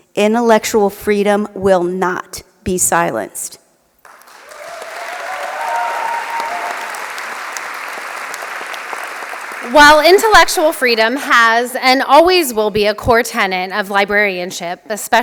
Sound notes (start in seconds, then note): 4.0 applause